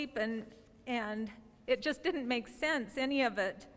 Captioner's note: none